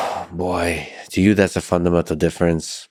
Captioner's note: sighs